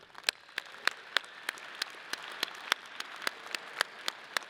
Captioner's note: audience applauding